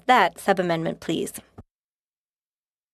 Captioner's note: speaking French